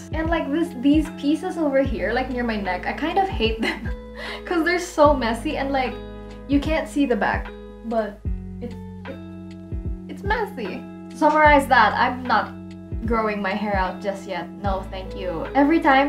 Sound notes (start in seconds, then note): 4.0 laughs; 9.2 stammers